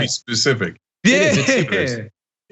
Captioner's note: laugh